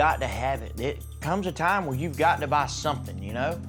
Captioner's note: none